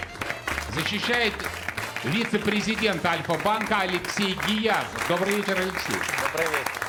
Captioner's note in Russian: ликование; аплодисменты